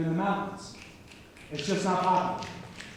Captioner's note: snapping